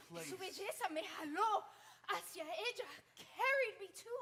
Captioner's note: speaking Spanish